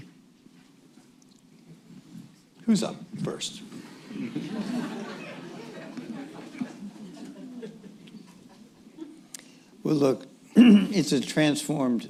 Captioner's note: laughter